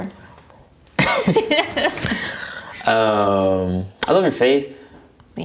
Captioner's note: both laughing